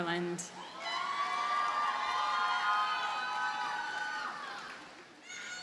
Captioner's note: audience cheers and applauds